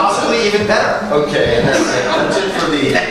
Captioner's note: laughter